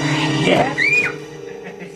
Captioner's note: scream